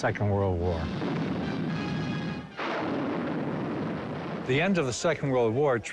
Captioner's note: cannons firing